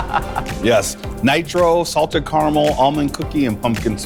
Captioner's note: laughs